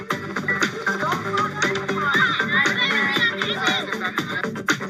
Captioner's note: campers chattering